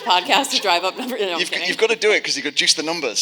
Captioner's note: audience laughing